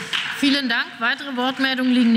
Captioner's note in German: Beifall